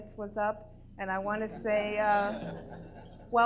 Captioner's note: audience laughter